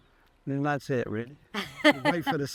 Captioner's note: chuckles